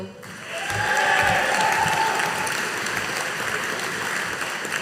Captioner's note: audience applauding